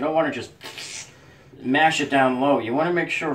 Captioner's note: man spits